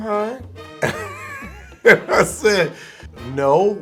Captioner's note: laughing